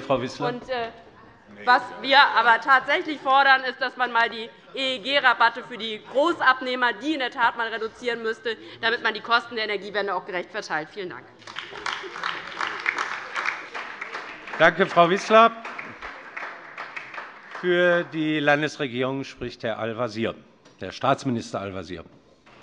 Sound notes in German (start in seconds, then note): 11.4 Beifall DIE LINKE und vereinzelt BÜNDNIS 90/DIE GRÜNEN